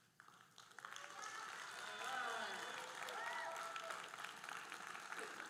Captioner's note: audience cheering and applauding